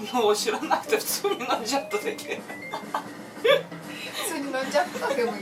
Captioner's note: laughing